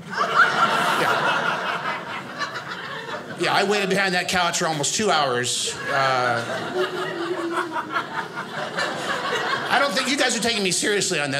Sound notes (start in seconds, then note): 5.6 audience laughing